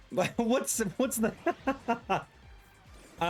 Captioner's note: laughs